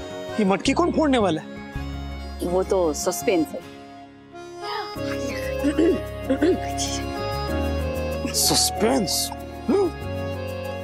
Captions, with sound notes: Who will break the pitcher? It's a suspense. [clearing throat] [talking gibberish] Suspense? Really?